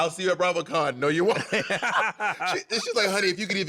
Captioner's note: laughter